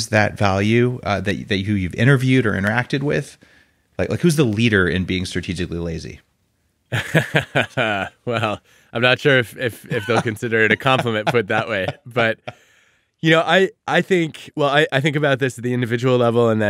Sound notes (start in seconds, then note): 6.9 laughing